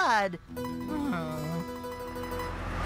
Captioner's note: groans